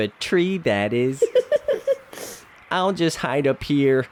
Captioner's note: laughs